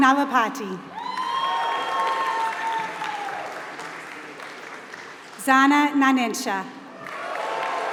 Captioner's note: applause; applause